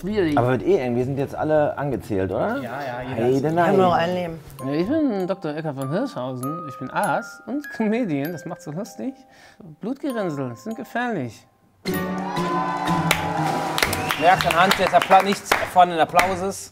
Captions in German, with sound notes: Wir sind jetzt alle angezählt, oder? Ich hab nur noch ein Leben. Ich bin Dr. Eckart von Hirschhausen, ich bin Arzt und Comedian, das macht's so lustig. Blutgerinnseln sind gefährlich. (Jubel, Applaus) Merkst du anhand ... nichts von den Applauses.